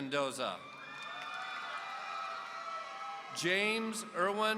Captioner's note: audience cheering